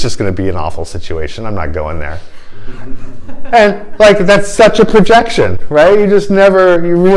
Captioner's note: laughter